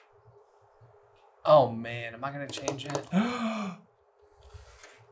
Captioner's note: gasp